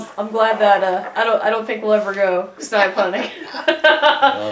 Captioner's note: laughter